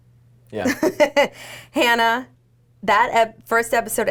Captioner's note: laughs